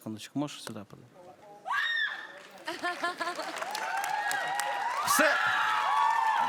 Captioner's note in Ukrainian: оплески